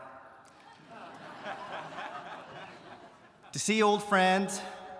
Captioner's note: audience laughing